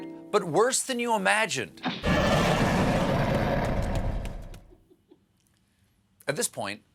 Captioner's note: snarling